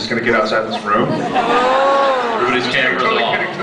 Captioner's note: laughs